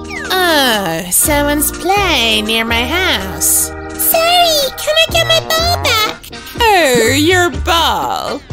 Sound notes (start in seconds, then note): 2.5 sniffling and then crying